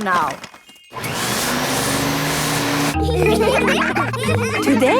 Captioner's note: whirring; all laughing